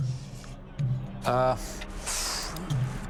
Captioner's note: exhales